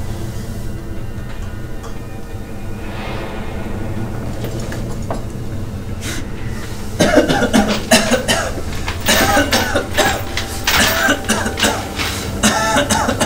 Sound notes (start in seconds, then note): 0.1 dramatic music; 7.0 coughing